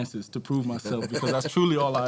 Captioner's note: laughing